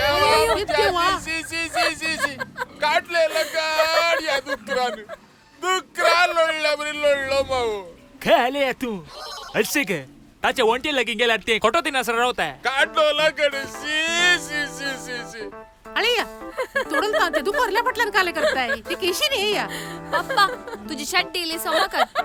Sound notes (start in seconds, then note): 1.5 laughing; 4.5 laugh; 16.3 laugh